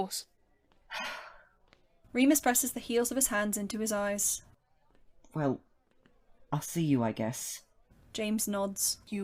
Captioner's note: Remus sighs